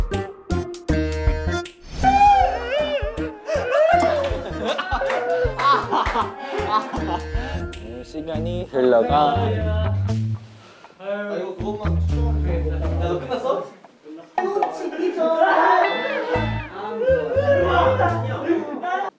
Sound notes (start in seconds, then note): 2.1 sobbing?; 4.0 pretending! to sob